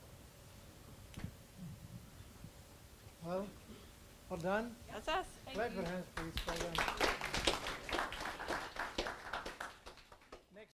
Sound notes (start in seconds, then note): 3.6 audience applause